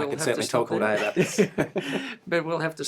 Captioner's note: laughter